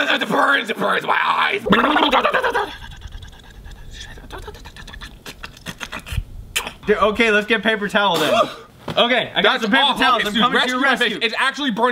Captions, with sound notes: - It burns, it burns my eyes. (gurgling) - Okay, let's get paper towel then. I've got some paper towels. - Rescue. Rescue my face.